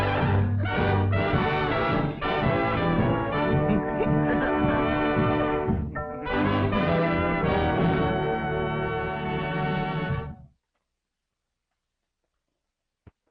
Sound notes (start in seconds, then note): 4.0 Elizabeth laughing